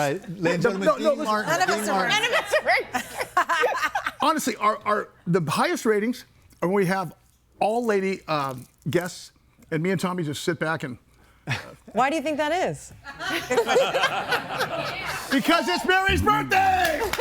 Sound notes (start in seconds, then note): 11.4 chuckles; 13.3 everybody laughing